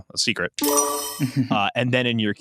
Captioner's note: laughs